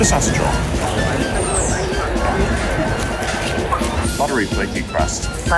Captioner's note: packet rustling; teeth gnashing